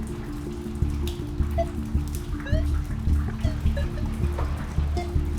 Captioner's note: more beeps and bleeps